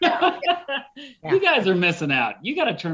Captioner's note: laughs